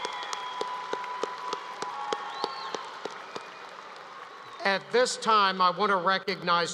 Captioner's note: applause